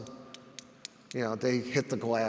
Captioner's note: hands clank